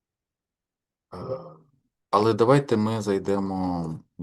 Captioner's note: clearing throat